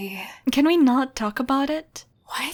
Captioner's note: none